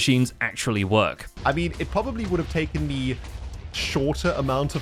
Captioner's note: many explosions